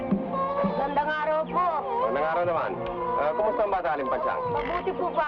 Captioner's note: dogs bark; infant cries; people speaking in Tagalog